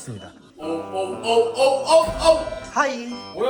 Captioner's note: sound effect like detecting an intruder?